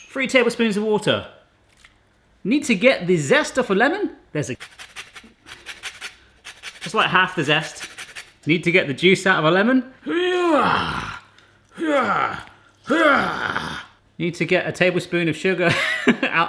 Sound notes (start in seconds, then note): 5.8 scraping; 15.9 laughs